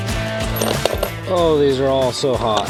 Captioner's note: upbeat music; metals clanking